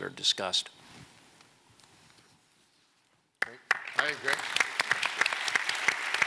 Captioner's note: applause